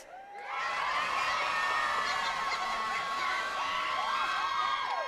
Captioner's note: attendees cheering and clapping